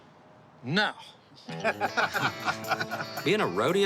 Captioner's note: laughter